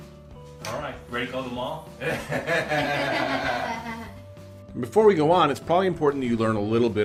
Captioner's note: laughter